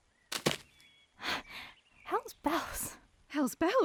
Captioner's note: exhale